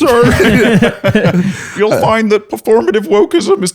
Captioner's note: laughter; imitating Morty